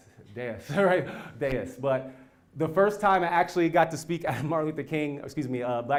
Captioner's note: laugh